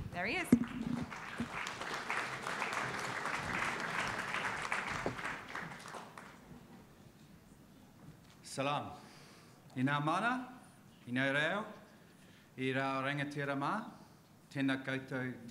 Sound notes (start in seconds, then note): 0.5 audience applauding; 8.9 speaks in a foreign language